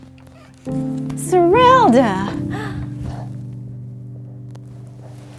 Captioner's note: door knocks